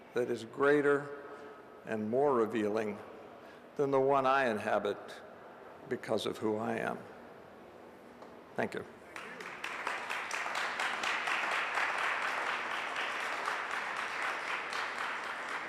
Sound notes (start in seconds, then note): 9.1 audience applauds